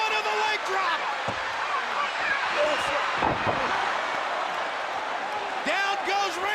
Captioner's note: crowd cheering